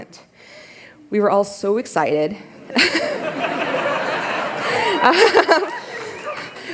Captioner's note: laughter